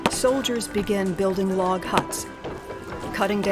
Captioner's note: chopping, sawing, hammering